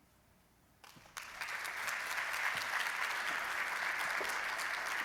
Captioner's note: applause